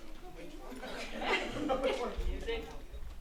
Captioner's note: audience chuckling, chattering